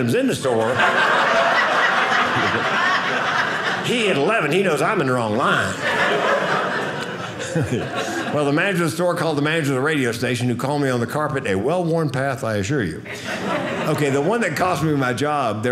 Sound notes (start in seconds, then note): 0.5 audience laughing